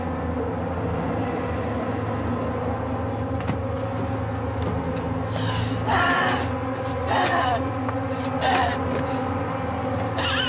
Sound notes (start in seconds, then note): 5.7 grunting